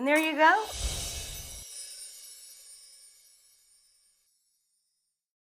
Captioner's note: high-pitched twinkle